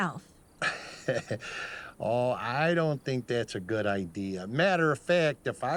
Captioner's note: chuckles